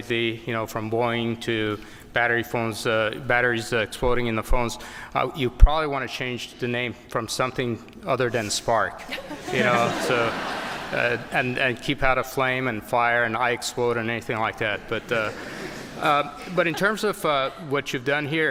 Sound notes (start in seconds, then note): 15.0 laughter